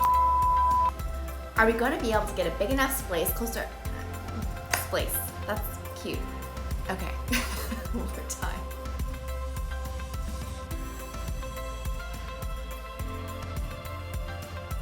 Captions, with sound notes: (beeping) Our we gonna be able to get a big enough splace, close to... Splace. That's cute. Okay. (laughing) One more time. (upbeat music)